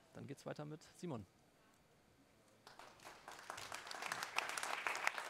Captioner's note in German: applaus